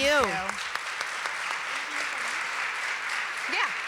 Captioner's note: applause